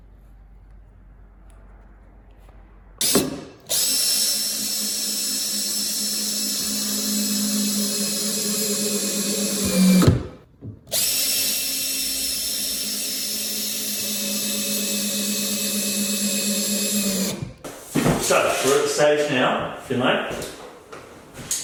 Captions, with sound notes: (drill whirs) So, we're at the stage now, Findlay.